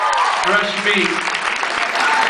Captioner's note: applauds; cheers, applauds